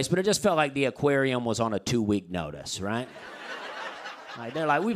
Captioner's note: laughter